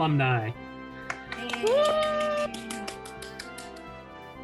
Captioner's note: cheers, applause